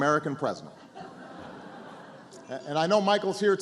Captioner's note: laughter